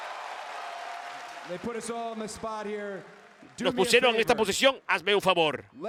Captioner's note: applause